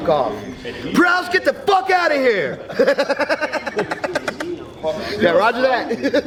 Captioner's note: laughing